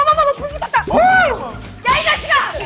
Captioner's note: sudden outburst